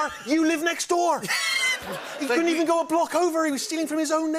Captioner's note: laughter